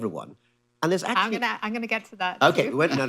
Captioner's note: laughs